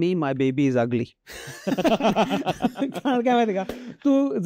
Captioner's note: laughter